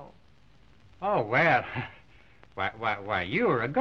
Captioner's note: stammers